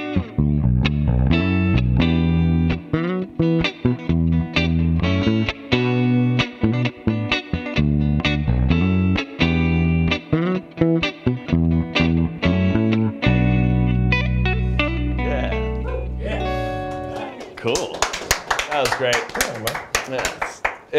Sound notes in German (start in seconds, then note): 16.9 applaus